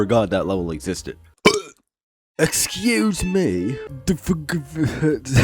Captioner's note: burp; British accent